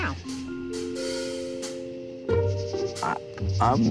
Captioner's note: crickets chirping; tense suspicious music